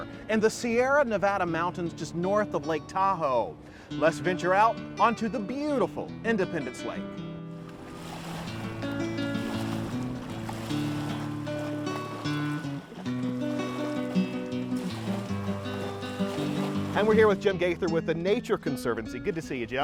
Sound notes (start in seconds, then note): 8.6 sound of water splashing